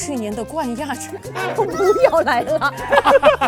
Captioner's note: laughs